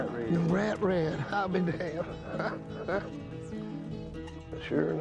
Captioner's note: laughs